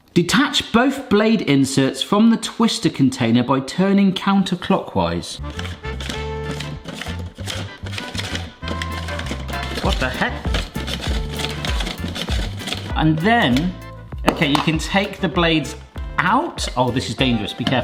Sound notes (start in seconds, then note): 5.4 spiralizer rustling; 5.7 upbeat music; 10.7 spiralizer rustling; 10.7 upbeat music continues